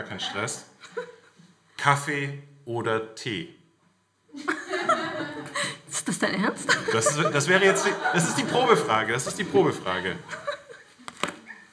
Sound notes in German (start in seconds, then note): 3.3 Lachen im Publikum